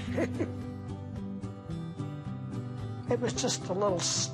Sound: laughs

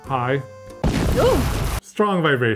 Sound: explosion

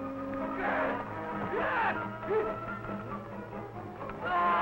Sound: men grunting

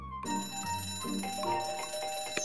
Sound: bell ringing

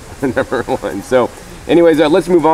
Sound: laughs

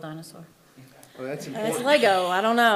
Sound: attendee chuckling

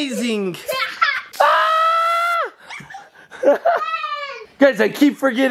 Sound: shrieks while spraying

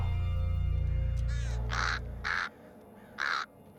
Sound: cawing

